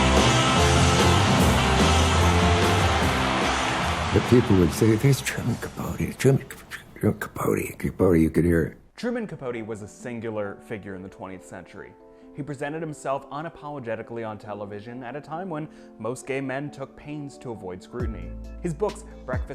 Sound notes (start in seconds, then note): 3.1 audience cheering; 15.5 pensive music; 18.5 bouncy pensive music